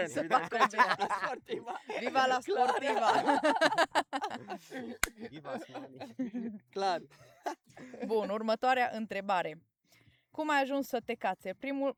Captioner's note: everyone laughs; everyone laughs